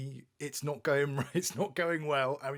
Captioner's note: chuckles